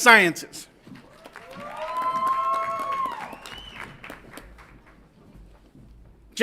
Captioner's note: audience applauds and cheers